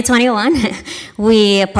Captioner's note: chuckles